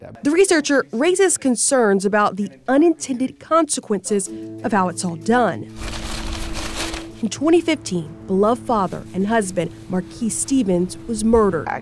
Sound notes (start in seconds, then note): 5.1 soft music; 5.6 flowers shuffling